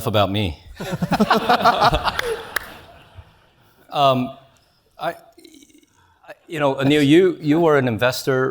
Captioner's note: laugh